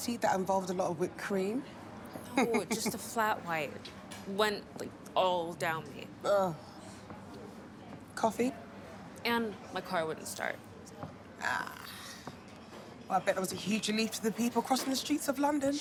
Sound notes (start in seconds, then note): 2.3 Regina laughing